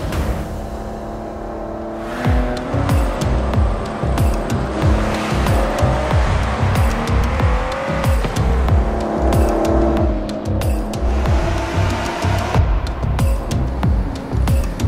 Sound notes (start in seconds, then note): 2.2 engine revving; 3.1 dramatic music